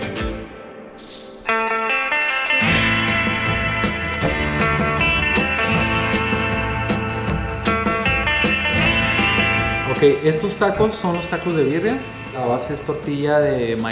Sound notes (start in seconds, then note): 0.1 western music; 10.3 speaking Spanish